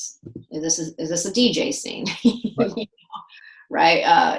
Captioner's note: laughs